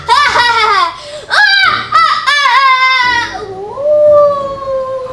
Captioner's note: intensifying laughter